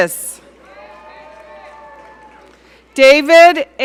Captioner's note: audience cheering